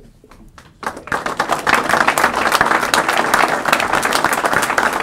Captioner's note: applause